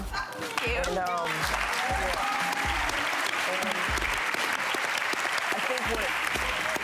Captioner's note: audience applauds